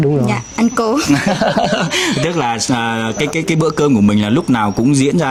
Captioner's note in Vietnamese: tiếng cười